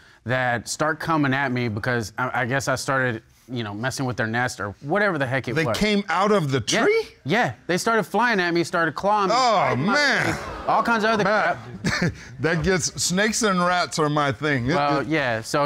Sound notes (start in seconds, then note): 10.2 audience gasps; 11.1 chuckles